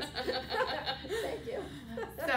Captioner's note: laughter